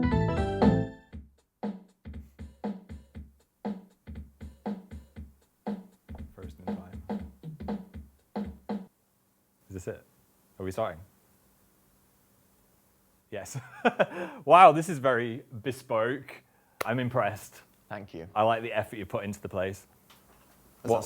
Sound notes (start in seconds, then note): 13.6 laughing